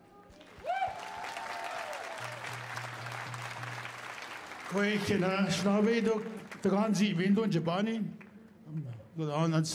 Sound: speaking Indigenous Language

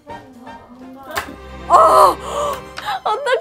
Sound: crack

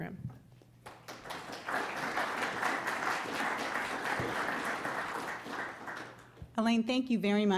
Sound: audience applause

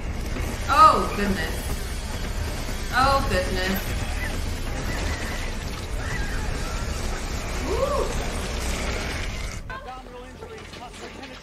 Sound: firefighter screaming

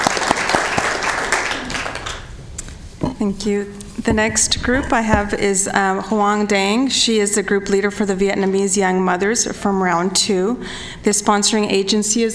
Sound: applause

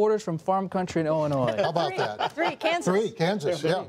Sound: laughter

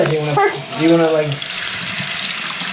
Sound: water Sounds

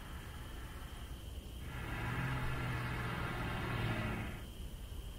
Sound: van approaching

